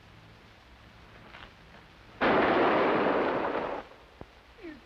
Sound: gun shot

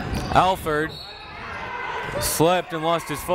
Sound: whistle

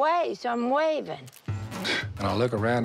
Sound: scoffs

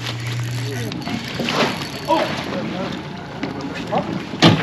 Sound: reel cranking; boat engine idling; thunk

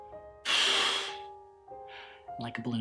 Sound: whooshing

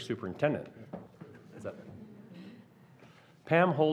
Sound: laughing

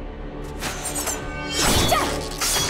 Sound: grunting

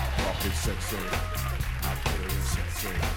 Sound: cheers and applause

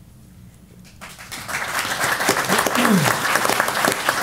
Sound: applause

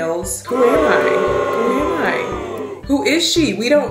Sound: crowd booing

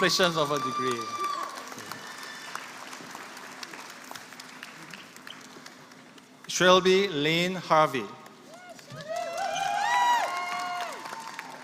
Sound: applause

